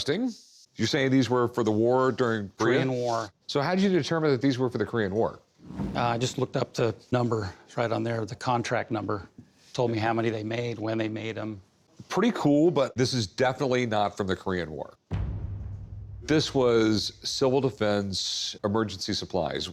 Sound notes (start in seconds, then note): none